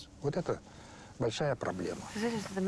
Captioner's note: speaks Russian